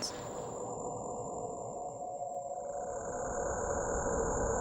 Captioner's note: electronic warbling